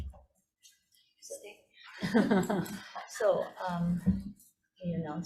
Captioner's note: room chuckling